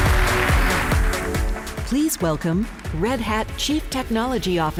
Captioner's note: applause